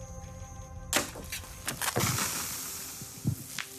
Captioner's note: soda fizzes